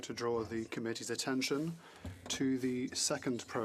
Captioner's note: speaking French